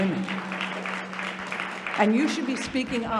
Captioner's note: audience applauding